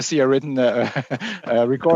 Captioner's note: laughter